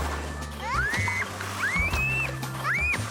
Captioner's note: squeals